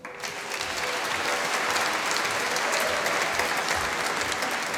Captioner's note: applause